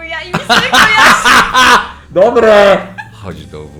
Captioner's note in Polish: śmiech